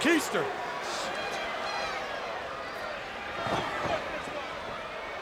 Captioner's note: crowd chattering